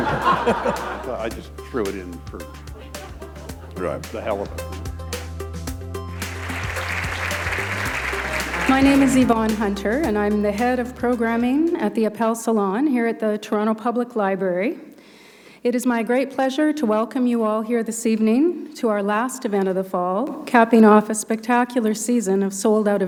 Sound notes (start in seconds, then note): 6.1 applause